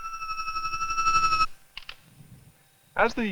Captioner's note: camera shutter clicks